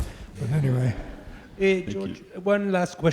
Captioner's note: audience laughing